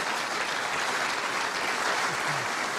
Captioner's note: applause